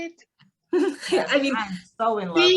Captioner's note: student laughs